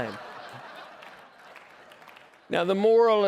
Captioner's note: laughter